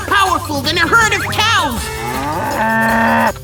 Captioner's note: cow moos